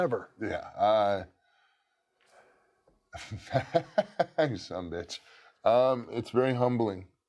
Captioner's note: laugh